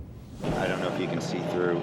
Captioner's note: loud engine running